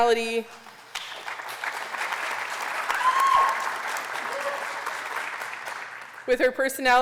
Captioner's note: applause